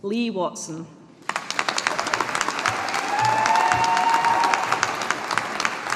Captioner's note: audience applauding